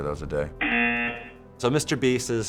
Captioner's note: buzzer